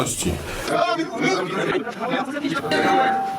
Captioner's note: noisy public